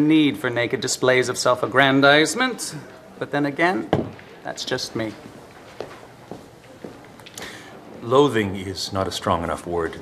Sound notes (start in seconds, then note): 3.9 thud of trophy